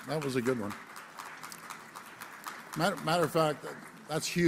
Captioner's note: applause